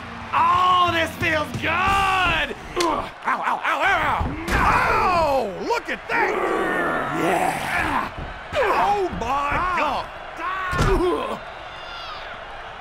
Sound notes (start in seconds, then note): 6.4 straining; 11.4 cheering